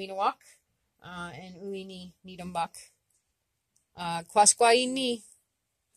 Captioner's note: speaking Abenaki; speaking Abenaki